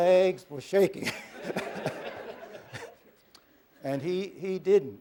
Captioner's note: laughter